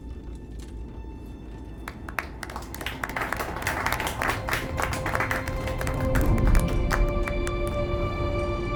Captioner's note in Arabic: تصفيق